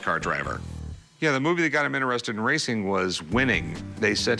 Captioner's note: none